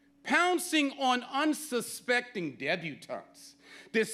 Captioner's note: none